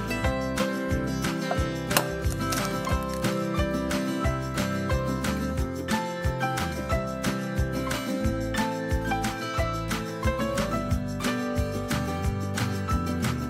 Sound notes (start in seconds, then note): 1.9 egg crack